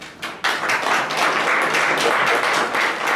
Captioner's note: applause